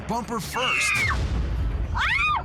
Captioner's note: screaming